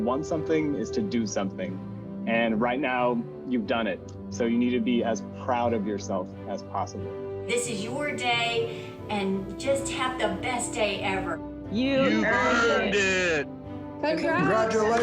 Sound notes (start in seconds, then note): 12.9 crowd